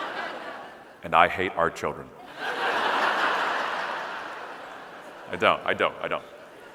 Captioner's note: audience laughing; audience laughing